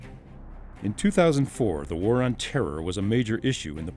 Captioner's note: voiceover